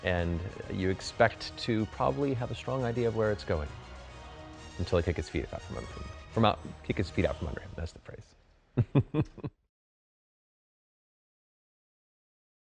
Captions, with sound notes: and you expect to probably have a strong idea of where it's going until I kick his feet out from under him. From out, kick his feet out from under him. That's the phrase. (chuckling)